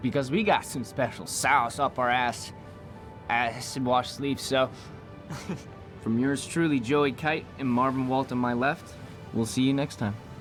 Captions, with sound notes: because we got some special sauce up our ass, -eh, acid washed sleeves, so... -[chuckles] From yours truly, Joey Kite and Marvin Walt on my left, we'll see you next time.